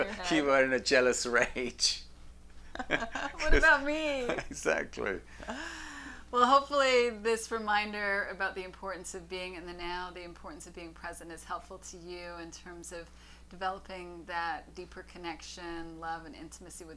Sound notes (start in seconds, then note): 2.7 laughs loudly